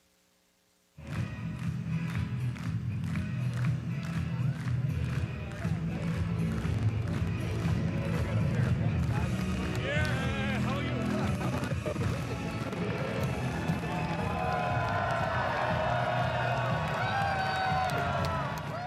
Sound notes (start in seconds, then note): 15.9 crowd din; 18.3 cheers and applause